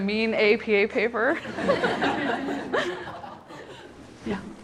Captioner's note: laughter